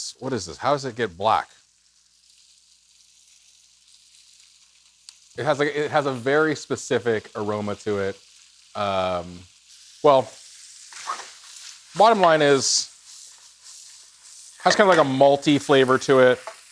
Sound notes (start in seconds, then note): 3.0 food sizzling